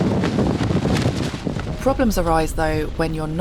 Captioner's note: wind